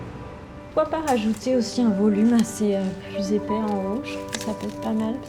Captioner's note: speaking French